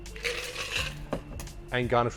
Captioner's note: ice clinks